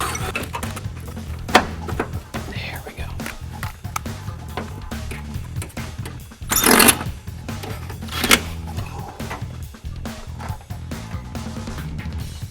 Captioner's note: electric screwdriver; electric screwdriver